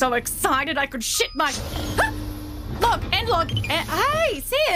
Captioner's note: PSSSHT! Door slides open. It’s Sim